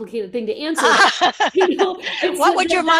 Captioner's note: laughter